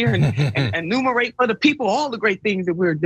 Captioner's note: laugh